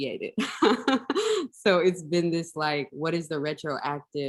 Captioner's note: laughs